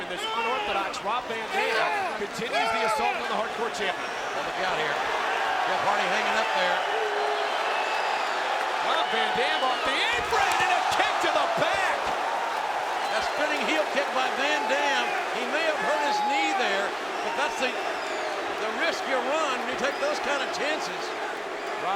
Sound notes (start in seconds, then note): 5.9 crowd cheering; 12.4 crowd groaning